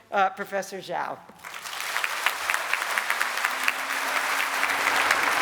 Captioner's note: applause